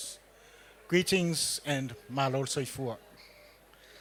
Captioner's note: speaks foreign language